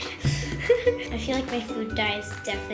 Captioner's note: laughter